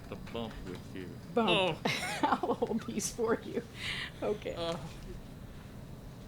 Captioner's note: laughs